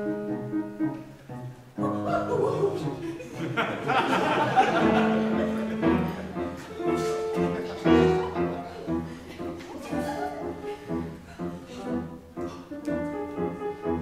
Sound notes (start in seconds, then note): 0.0 playful music; 3.0 Miss Todd gasps; 5.2 audience laughs; 9.6 playful music continues